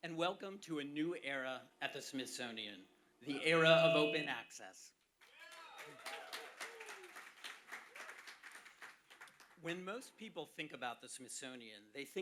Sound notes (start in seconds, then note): 5.2 applause